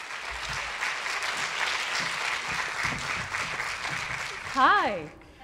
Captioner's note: applause